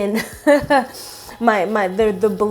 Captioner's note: laughs